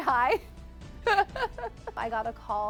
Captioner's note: laughs